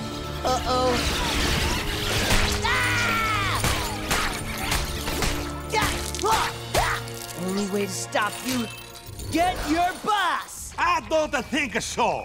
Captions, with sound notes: Uh-oh. [yelling] Only way to stop you get your boss! I don't-a think-a so.